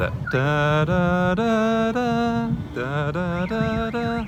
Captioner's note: humming